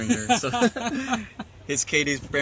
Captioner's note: laughs